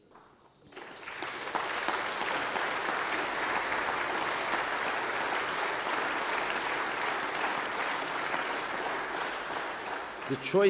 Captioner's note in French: Applaudissements